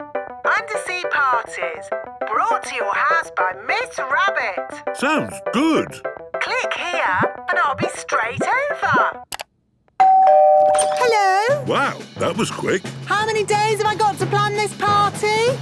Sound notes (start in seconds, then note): 10.0 doorbell ringing